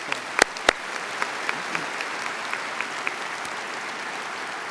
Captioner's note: applause